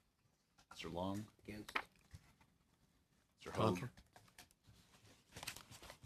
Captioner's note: speaking French